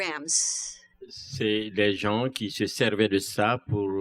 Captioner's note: speaking french